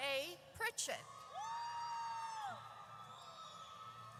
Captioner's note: audience cheers